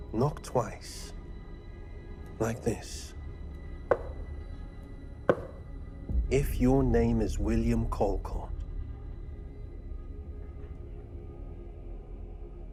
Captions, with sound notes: Knock twice, like this, [knuckles rapping] if your name is William Colcott. [ominous music]